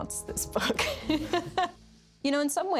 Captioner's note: laughs